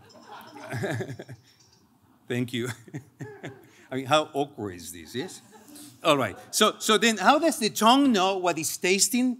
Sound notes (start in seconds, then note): 0.0 chuckles